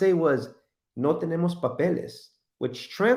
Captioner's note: foreign language